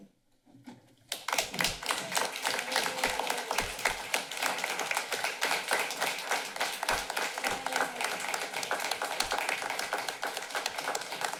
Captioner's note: applause